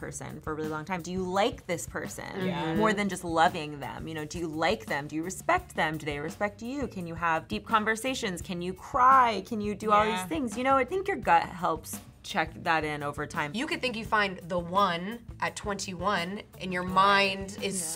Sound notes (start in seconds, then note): none